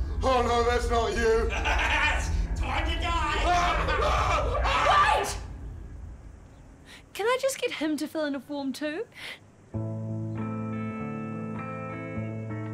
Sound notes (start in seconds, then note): 1.2 evil laughter; 2.7 screaming; 9.7 upbeat Music